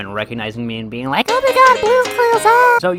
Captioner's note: high-pitched voice